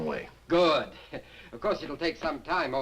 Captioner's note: chuckles